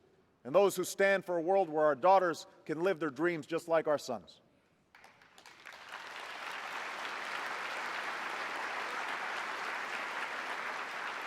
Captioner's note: applause